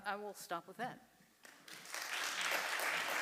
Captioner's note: applause